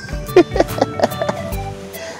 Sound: laughs

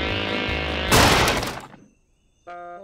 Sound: crashes

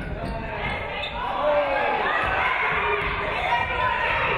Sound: audience cheering

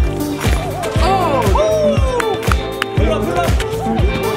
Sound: players cheer

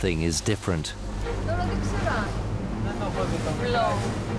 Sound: crew speaking Greek

